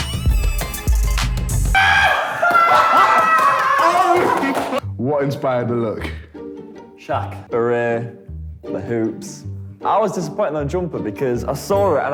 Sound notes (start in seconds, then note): 1.8 laughs